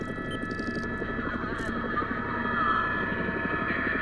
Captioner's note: helicopter propellers